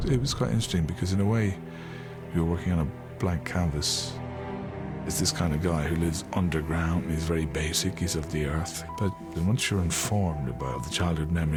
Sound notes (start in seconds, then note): none